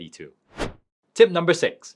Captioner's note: transition whooshing